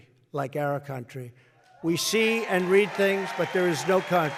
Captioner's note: applause